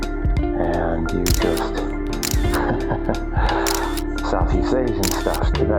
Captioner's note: dramatic music; laughs